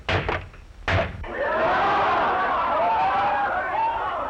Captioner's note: all screaming